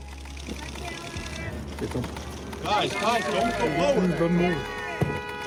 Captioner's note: paparazzi talking faintly